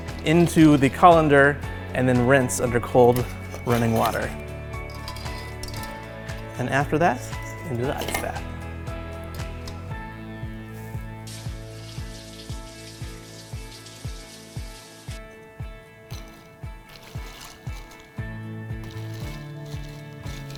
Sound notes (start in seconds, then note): 11.5 water running; 15.7 ice crackling